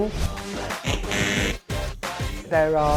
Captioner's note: buzzing sound